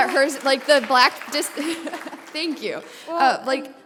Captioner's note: brief laughter